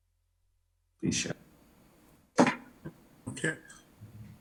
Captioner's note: audio warbling